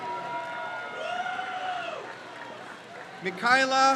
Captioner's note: crowd cheers